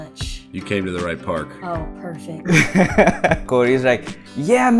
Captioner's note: laughter